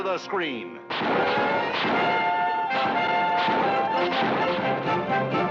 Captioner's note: gunshots